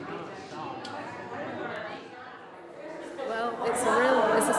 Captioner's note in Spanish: personas charlando débilmente